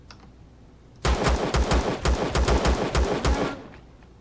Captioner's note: bat dying; pistol firing